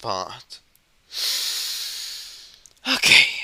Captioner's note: breathes in and out